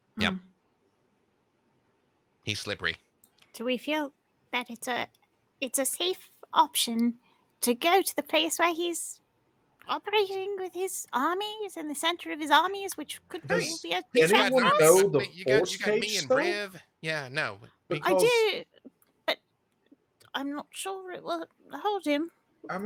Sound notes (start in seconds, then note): 13.4 murmurs